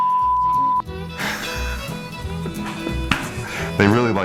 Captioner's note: beep